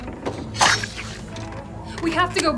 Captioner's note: knife scraping